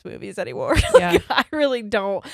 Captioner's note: laughs